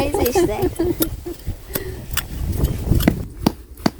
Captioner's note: laughter